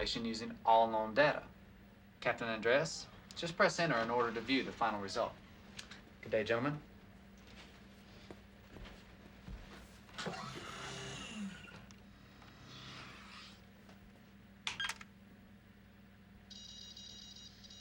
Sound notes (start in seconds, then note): 10.2 machine whirring